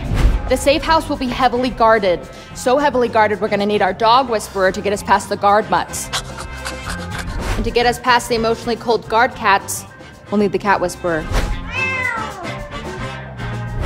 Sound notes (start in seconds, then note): 5.9 panting; 11.6 meow